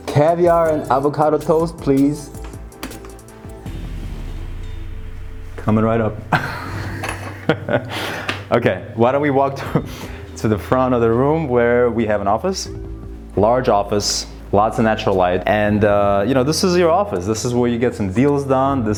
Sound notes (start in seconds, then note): 4.5 bell chimes; 6.3 laughs